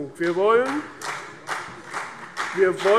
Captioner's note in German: Beifall CDU und vereinzelt BÜNDNIS 90/DIE GRÜNEN